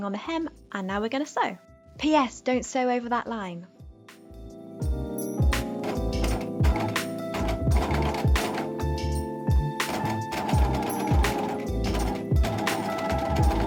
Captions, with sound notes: on the hem and now we're gonna sew. P.S. don't sew over that line. (sewing machine whirring) (soft music)